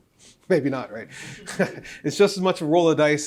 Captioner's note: laughs